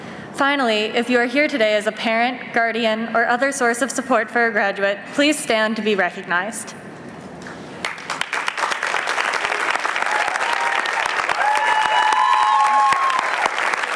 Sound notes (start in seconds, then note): 7.8 applause